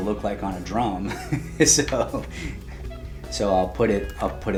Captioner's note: laughing